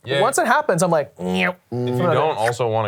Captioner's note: imitates razor buzzing